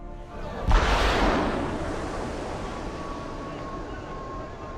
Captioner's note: missile fires